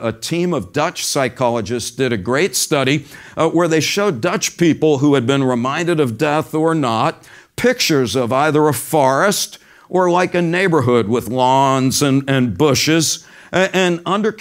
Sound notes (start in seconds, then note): none